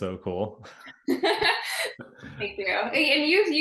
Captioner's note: laughing